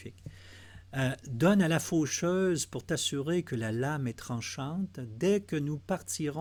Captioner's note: translating in French